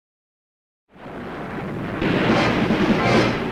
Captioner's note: waves crashing; dramatic theatrical music